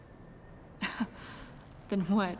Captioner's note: laughs